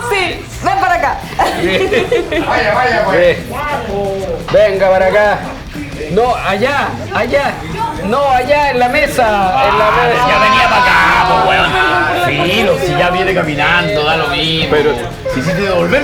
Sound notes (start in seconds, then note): 2.1 laughs